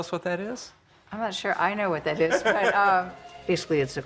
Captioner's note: laughs